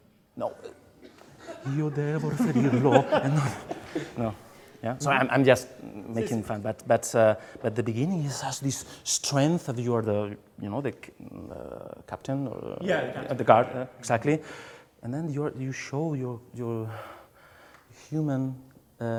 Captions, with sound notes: No, "Io devo riferirlo, e non dimeno". [LAUGHING] Sorry, I'm just making fun, but at the beginning it has this strength of you're the, the captain. - Yeah, the captain - Of the guard, exactly. And then, you show you're human and pain